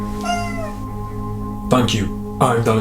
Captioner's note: cat meowing